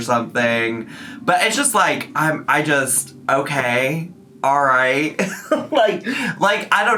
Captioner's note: laughs